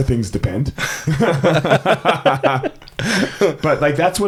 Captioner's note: both laughing